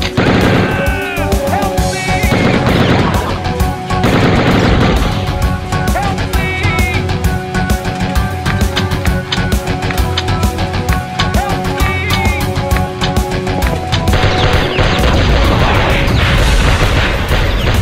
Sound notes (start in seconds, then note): 10.0 gun reload sync with music